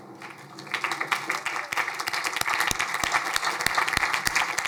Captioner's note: crowd applauding